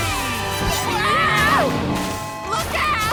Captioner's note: screaming